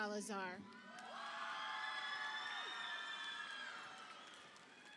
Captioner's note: audience applauding